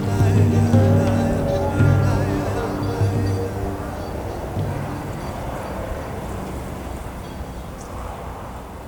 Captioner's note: desert wind